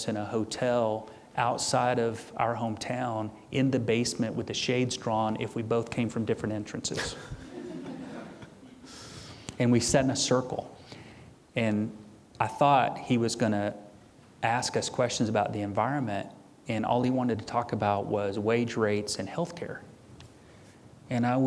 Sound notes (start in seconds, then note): 6.9 audience chuckling